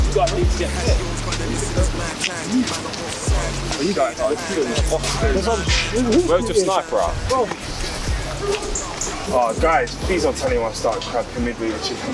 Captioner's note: laughing